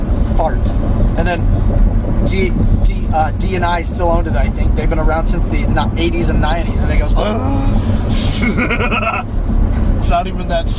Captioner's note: gasp